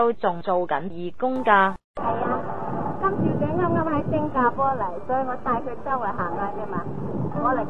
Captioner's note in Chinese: 夏帆以粵語